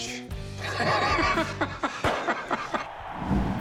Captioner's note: laughs